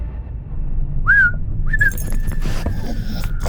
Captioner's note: whistling